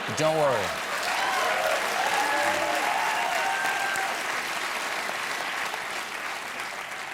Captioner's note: cheers and applause